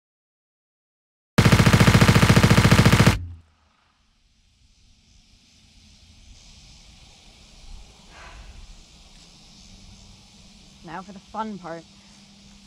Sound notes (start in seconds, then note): 1.4 long stream of gunfire